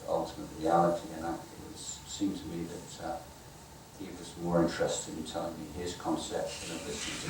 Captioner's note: audience laughing